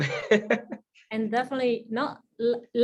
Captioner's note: laughing